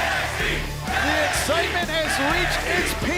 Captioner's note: fans chanting